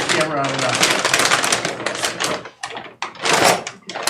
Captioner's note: paper rustling